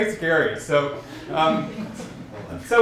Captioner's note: laughter